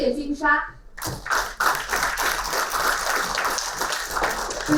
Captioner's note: applauding